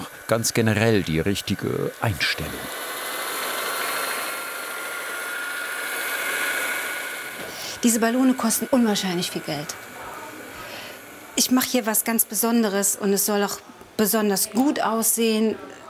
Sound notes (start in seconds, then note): 2.8 whirring